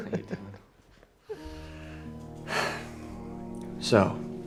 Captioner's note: chuckling; sighs